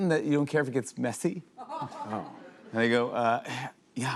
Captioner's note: laughter